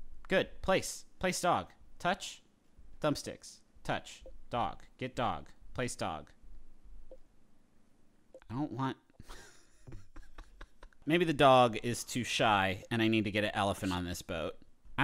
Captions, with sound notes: Good, place dog. Touch, thumb sticks, touch, dog, get dog, place dog. I don't want-- (laughs) Maybe the dog is too shy and I need to get an elephant on this boat